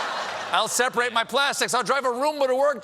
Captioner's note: laughter